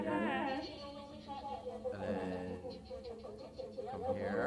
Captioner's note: foreign language 00:21:25